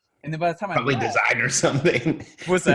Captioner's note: laughing